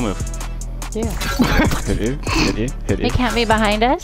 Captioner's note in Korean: 웃음